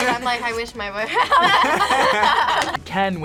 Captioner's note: both laugh